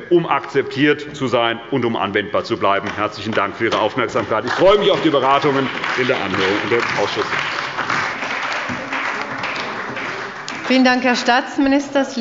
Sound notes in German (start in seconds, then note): 8.2 Beifall bei der CDU und dem BÜNDNIS 90/DIE GRÜNEN